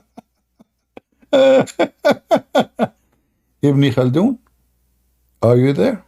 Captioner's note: Ketawa